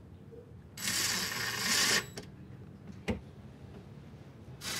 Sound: drilling sounds

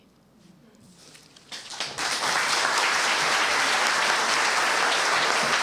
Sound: applause

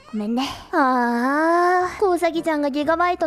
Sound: sighs

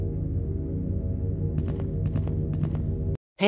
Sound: multiple footsteps

